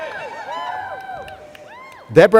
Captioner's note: laughter